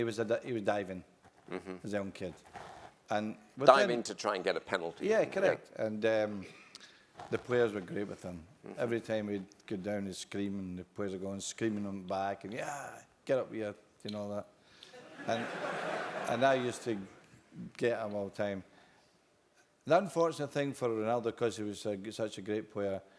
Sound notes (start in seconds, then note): 15.0 laugh